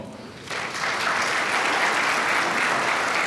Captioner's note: applause